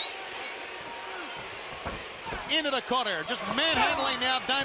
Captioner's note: crowd chatter